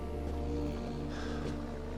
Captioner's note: sighs